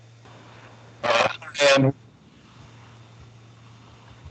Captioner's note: audio static